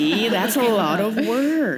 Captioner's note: laughter; chuckle